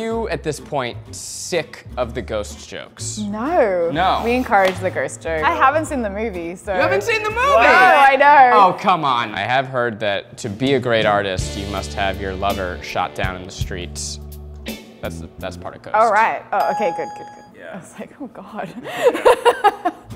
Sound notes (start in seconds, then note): 16.6 ding; 18.8 laughter